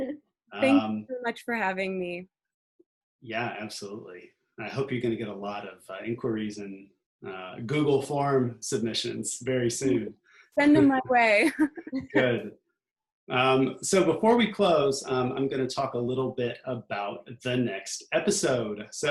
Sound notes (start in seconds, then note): 11.4 laughs